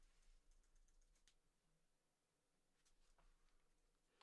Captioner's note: keyboard clicking